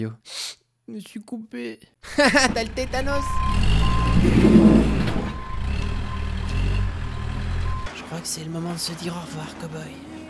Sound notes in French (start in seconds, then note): 0.2 snif; 3.0 bips et bruits de machine; 8.7 ♫ Musique émouvante ♫